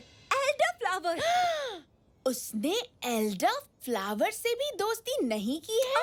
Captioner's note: gasps